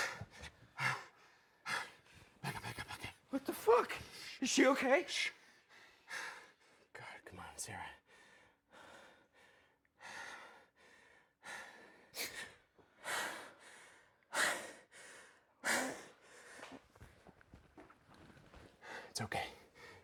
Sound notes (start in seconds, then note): 10.0 Wes breathing heavily; 11.8 Sarah gasps; 13.0 Wes breathing heavily